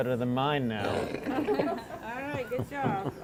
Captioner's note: all laughing